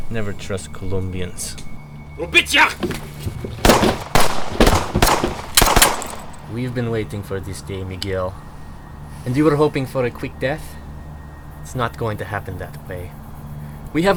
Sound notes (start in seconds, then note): 2.3 speaks Russian; 3.6 gunshots boom